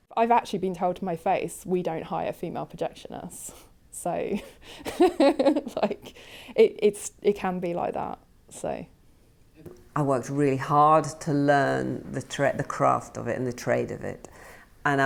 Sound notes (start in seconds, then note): 4.5 laughs